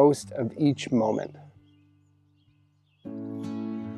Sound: birds chirping; bright country music

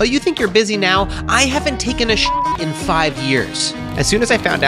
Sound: beep

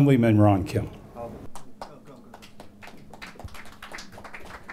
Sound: applause

